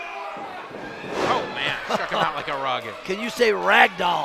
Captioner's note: chuckles